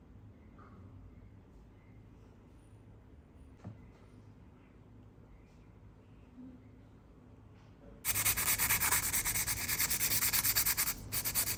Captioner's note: scrubbing sound